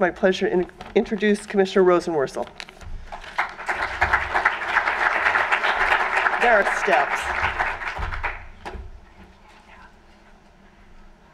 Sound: applause

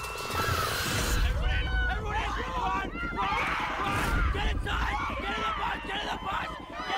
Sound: overlapping screams

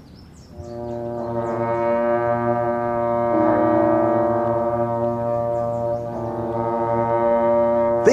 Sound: horns resonate

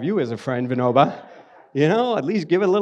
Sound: audience laughs

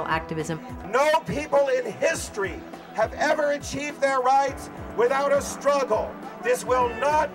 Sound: on microphone

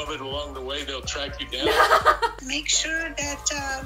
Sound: laughs

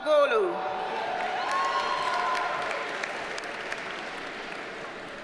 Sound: audience cheers and applauds

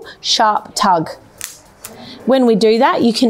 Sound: pole clicking

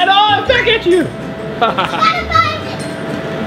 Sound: laughs

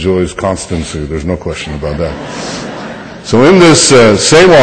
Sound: laughter

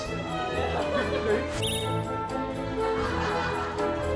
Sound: is laughing too

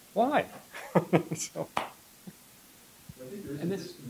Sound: laughs

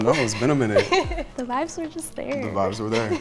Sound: laughs

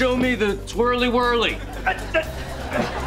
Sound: grunting

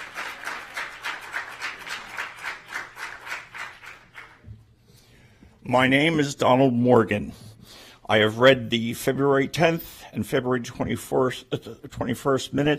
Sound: applause

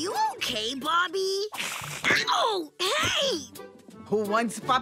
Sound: hissing

